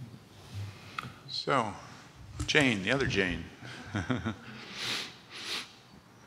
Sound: chuckles

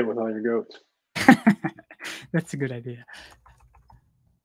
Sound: laughs

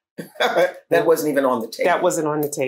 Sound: laughs

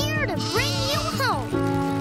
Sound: sheep baaing

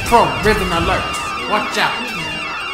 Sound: sirens

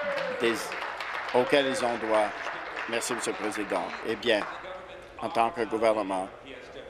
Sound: applause

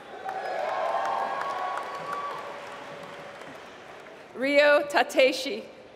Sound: applause

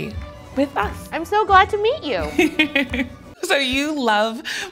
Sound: laughs

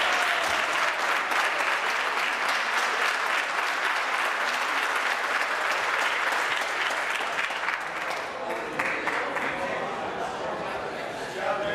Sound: applause

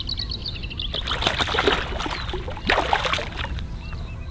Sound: splashing

